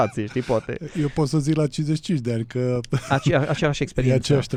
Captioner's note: laughter